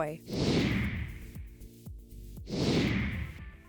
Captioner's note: whooshing